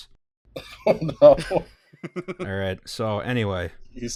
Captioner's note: laughter